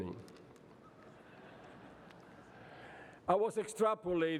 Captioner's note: laughter